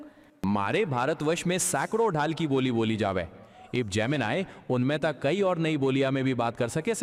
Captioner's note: automated male voice speaking foreign language